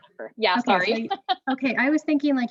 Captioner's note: chuckles